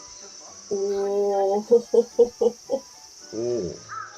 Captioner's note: nervous laughter